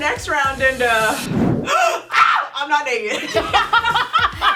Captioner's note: gasps; laughing